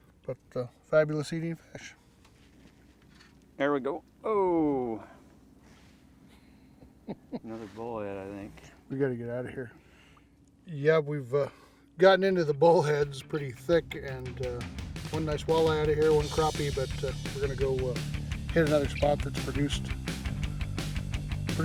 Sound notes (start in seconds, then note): 6.8 chuckling